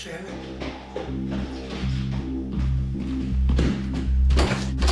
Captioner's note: footsteps thudding